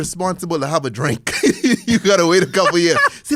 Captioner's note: laugh